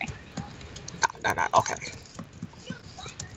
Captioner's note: mocking